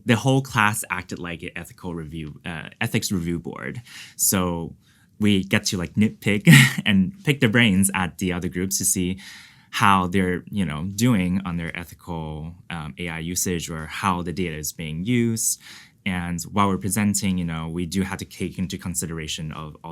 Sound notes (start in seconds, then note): 6.5 chuckles